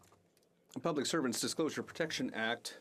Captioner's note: speaking French